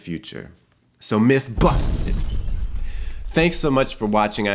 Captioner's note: explosion resounds